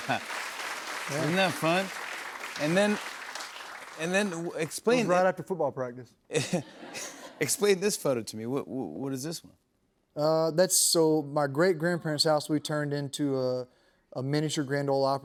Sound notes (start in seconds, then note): 0.0 applause; 6.3 laughter